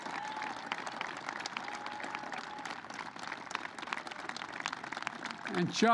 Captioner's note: applause